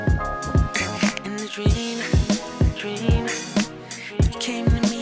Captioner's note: echos